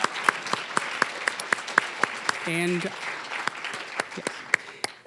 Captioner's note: applause